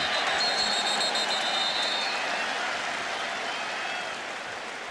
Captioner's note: whistle